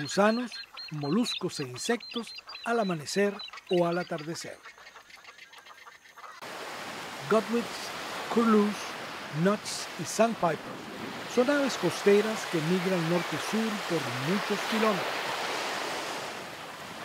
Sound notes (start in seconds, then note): 5.2 wetlands birds sounds; 14.3 sound waves, birds chirps